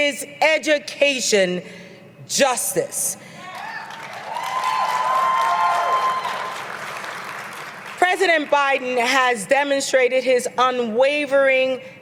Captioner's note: applause